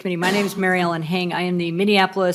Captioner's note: laughing